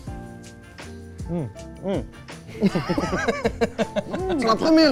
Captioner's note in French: rires